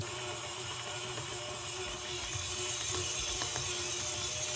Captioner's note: mixer whirring